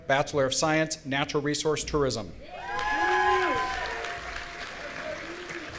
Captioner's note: audience cheering